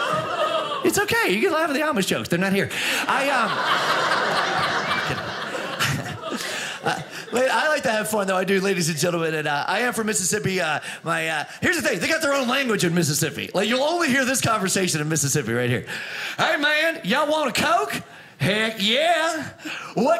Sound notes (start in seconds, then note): 3.0 audience laughing